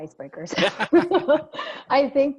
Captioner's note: laughing